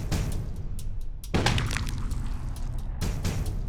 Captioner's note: gunshot